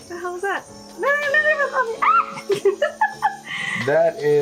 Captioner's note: screams